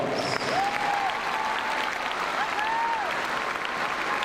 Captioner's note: crowd cheers